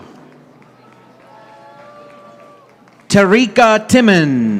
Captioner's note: audience applauding